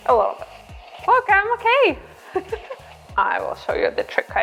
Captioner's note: laughs